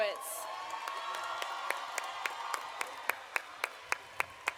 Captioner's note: audience applauding